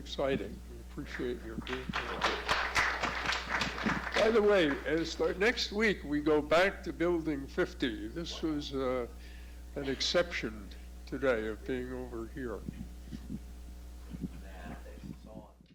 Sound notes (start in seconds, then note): 5.3 applause